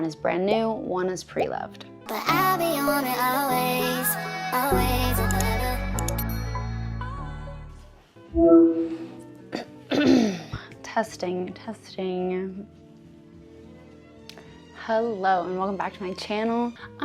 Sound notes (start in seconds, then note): 3.0 clears throat